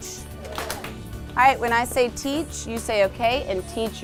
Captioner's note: hands clap